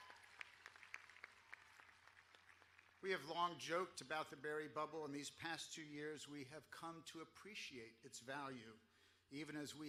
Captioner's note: applause